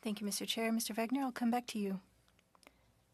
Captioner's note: speaking French